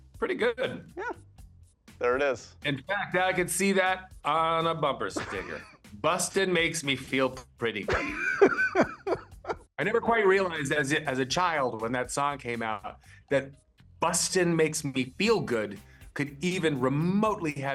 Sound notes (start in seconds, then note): 7.8 laughing